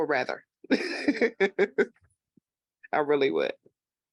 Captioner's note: laughing